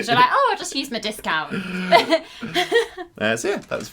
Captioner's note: laughter